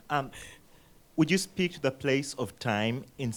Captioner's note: voiceover